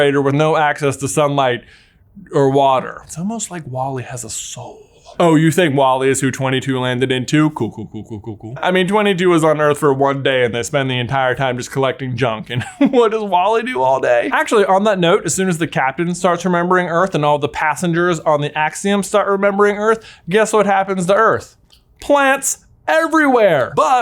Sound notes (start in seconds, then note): 14.0 laughs